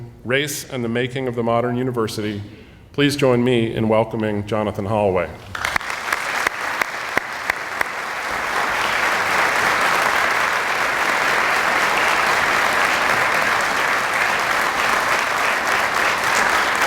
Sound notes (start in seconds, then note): 5.9 audience applauding